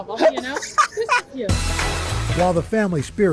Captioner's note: laughter